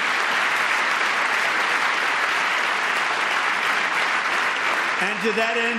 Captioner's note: applause